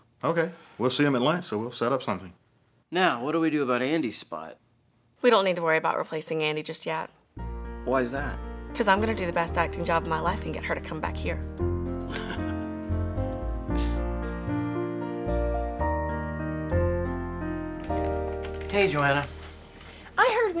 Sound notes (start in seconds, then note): 12.0 Gates laughs; 15.7 bright gentle music